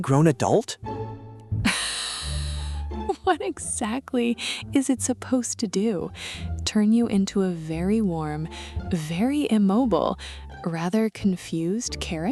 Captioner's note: trying to suppress laughter, covering her mouth